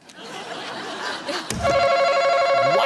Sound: scattered laughter

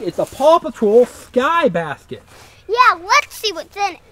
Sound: voiceover

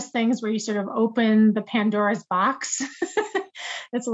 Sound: laughs

